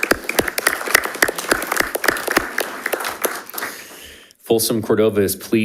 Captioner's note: audience applauding